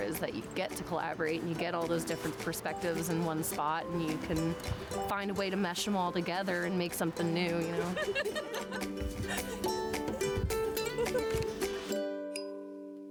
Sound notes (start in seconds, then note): 7.7 laughing; 9.7 upbeat music